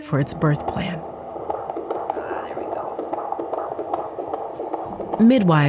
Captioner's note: fetal heart beat